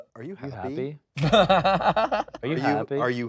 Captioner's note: laughing